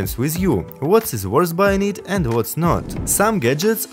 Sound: whoosh

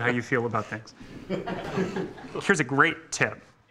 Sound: laughter

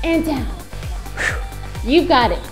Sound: blows air

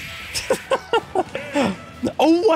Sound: laughs

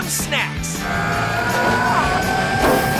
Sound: grunting

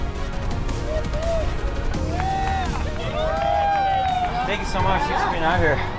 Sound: spectators applauding

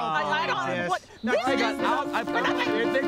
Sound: all grumbling

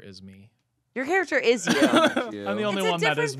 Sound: laughing

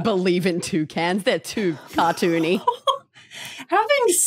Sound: laughs

